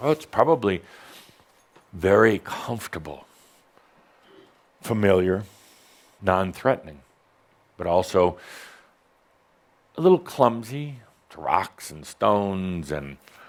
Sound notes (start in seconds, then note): none